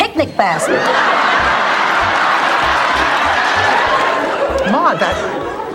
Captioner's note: audience Laughter